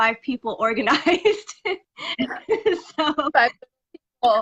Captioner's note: laughing